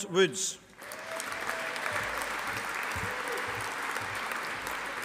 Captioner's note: audience applauding